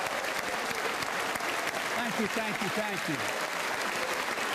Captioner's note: applause